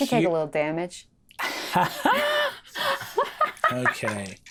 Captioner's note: Brennan and Ally laugh